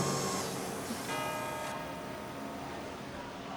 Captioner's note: church bell ringing